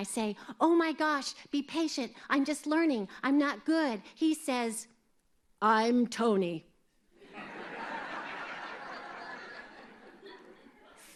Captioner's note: laughter